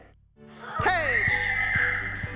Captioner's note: shrieking; bright music playing